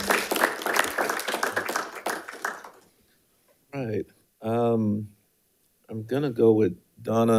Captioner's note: audience applauding